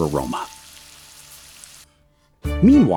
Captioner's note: sizzling